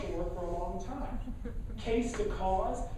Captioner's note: laughing